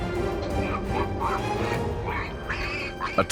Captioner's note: piglet squeals